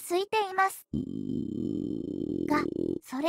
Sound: hime's stomach growls

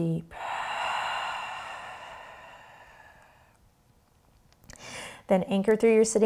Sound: heavy breathing

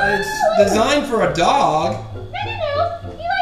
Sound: voiceover

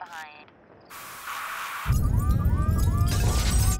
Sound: glass breaking, car alarms, rumbling

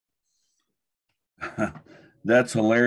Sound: chuckles

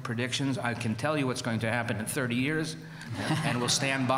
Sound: laughter

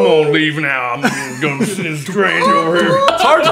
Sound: awkward laughter

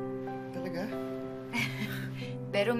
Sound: Claire chuckles

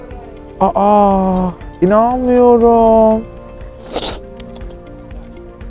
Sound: slurp

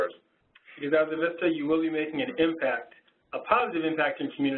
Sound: voiceover

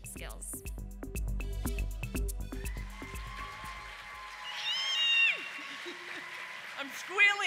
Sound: applause

